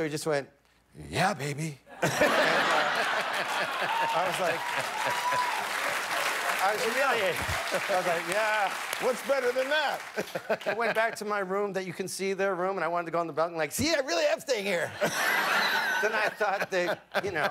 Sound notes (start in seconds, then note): 4.5 laughter; 7.1 cheers and applause